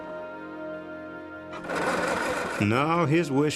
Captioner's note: engine grinds